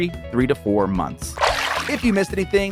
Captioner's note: water sloshing